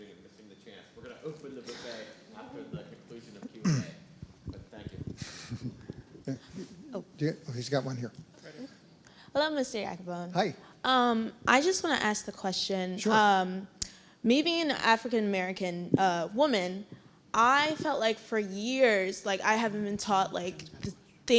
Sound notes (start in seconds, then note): 5.1 laugh